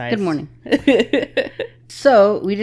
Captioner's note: laughing